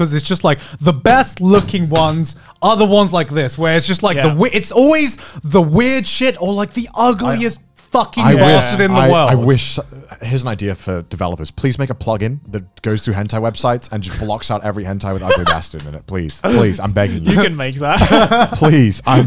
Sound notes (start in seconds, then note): 15.9 murmurs; 17.9 laughs